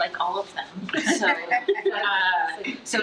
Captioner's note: trustees laugh